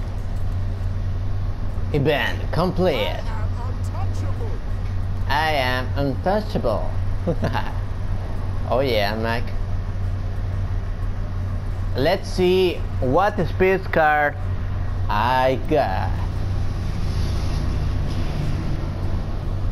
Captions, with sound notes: event complete, I am untouchable (laughs) oh yeah Mac, Let's see what speed car I got